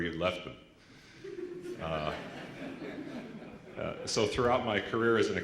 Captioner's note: laughter